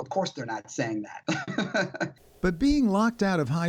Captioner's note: laughter